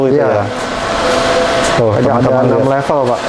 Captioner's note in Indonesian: suara mesin printer